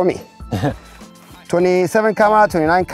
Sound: chuckle

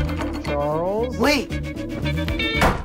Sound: voice from outside the room

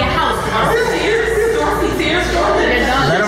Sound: crowd chattering

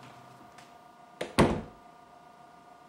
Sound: door closes

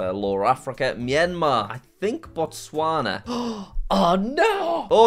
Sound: gasps

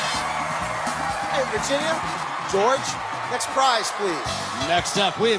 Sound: cheers and applause

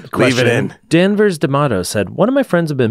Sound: faintly speaking

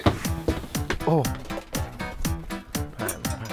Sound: exasperatedly

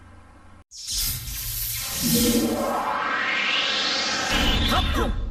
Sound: electricity zaps, accompanied by digitally-synthesized whooshing sounds

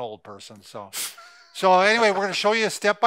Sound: laughing

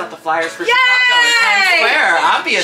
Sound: cheering

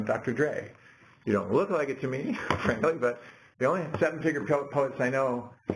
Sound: laugh

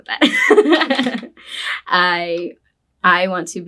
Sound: both laughing

